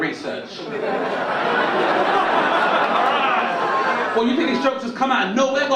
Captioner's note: audience laugh